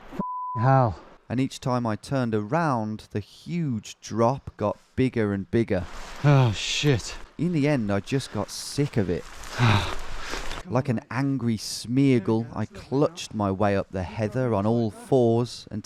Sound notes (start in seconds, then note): 9.9 grunts